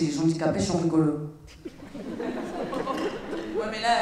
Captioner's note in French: rires